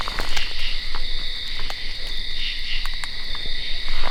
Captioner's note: insects chirp